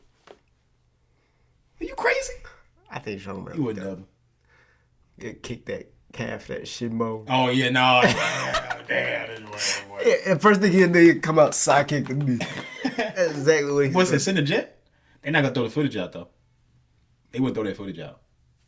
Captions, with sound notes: - Are you crazy? - I think Sean would. - He would have. - It kicked that calf, that shimmo. - Oh, you know. (laughing) - Damn, this is way, way. - First thing you need to come out, sidekick and be- (laughing) - Exactly. - What's this, in the gym? They're not gonna throw the footage out though. They wouldn't throw that footage out.